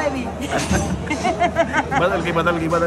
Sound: laughing

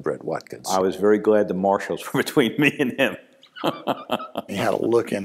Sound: laughs

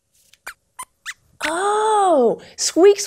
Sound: squeaks squeaks

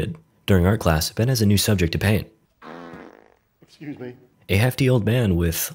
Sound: fart - sorry

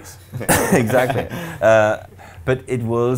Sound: laughing

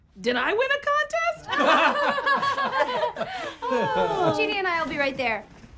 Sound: forced laughter

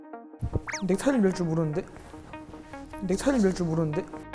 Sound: struggling

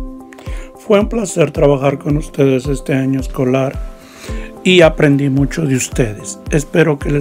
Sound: speaking in foreign language

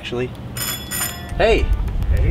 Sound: doorbell rings

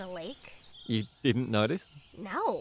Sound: laughs

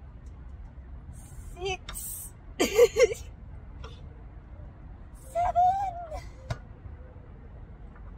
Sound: laughs

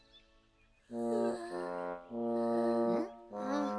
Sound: snoring softly

